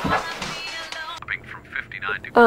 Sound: television chattering

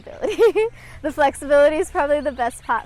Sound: chuckles

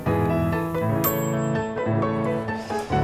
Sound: oven dings

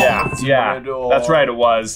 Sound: bell ringing

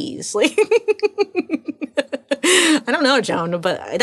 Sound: laughing

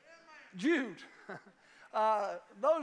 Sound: chuckles

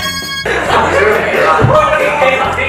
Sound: can't stop laughing

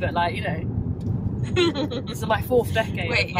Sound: laughter

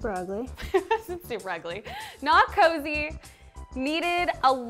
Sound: laughing

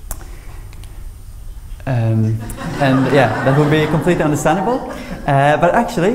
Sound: laughter

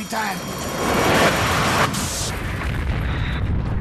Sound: explosion

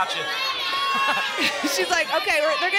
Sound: chuckles

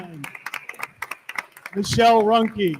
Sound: attendees continue applauding

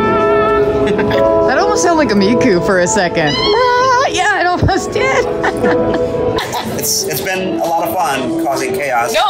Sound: laughter

